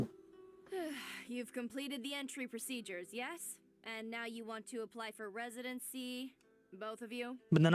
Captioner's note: sighs